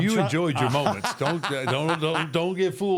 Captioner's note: Michael laughs